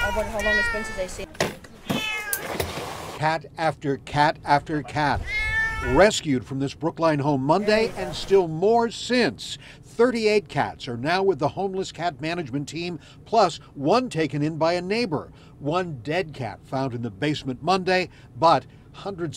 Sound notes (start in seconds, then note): 5.1 sound o cats meowing